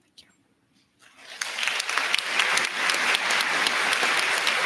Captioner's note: applause